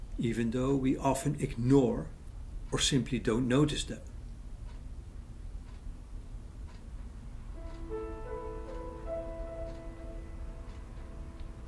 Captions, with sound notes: Even though we often ignore or simply don’t notice them. [clock ticking] [piano motif]